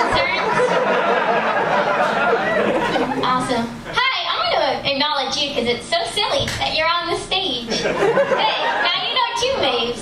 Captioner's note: laughter